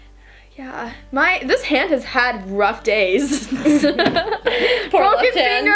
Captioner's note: laughs